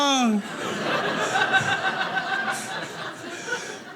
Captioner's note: audience laughing